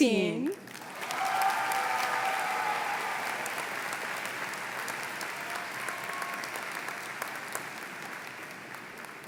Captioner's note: applause